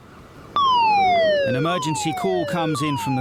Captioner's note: siren blaring